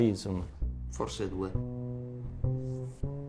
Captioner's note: in Italian